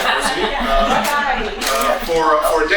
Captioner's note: group laughing